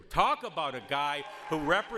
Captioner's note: audience applauds